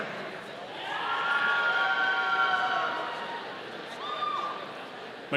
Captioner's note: audience cheering